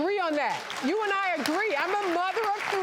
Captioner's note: applauding